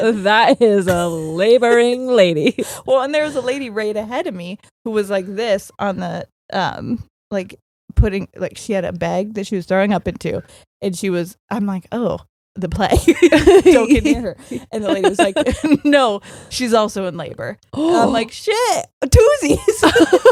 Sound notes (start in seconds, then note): 13.0 both laughing; 17.6 gasping